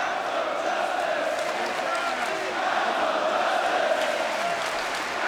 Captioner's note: audience continue chanting